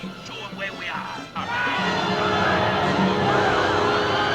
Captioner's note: screaming